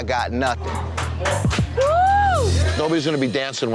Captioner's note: staff cheering